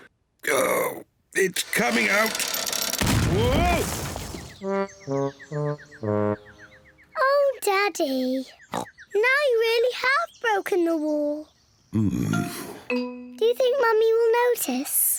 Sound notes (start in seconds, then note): 4.6 birds chirping; 8.7 oinks